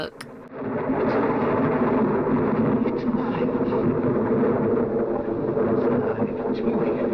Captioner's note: thunder